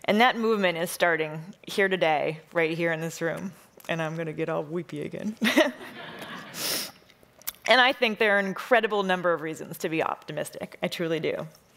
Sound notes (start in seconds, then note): 5.4 laughs; 5.8 audience laughing